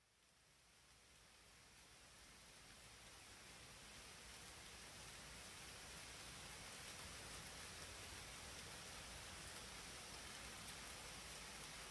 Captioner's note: rain Pouring